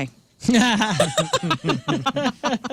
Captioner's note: laughing